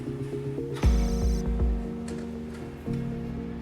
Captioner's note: dramatic music; computer calculating sound effect; dramatic music